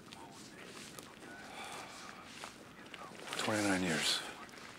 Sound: police Radio Chatter; sighs

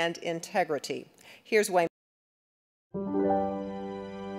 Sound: audio cuts off; gentle music

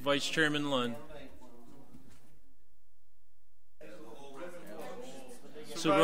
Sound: overlapping chattering

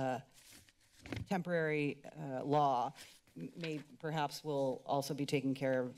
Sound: papers flipping

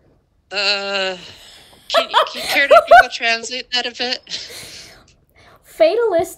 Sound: laughter

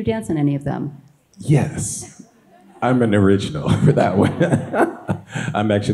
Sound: laughs

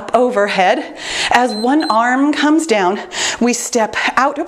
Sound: timer beeps

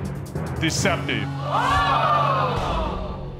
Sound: audience exclaiming

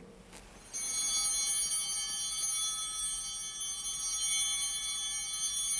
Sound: chimes ringing

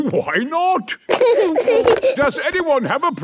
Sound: giggling

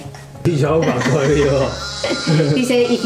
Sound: laugh

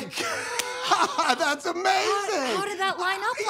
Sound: laughs

